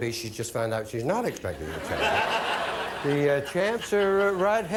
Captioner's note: audience laughing